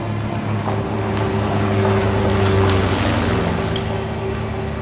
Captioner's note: aeroplane zooming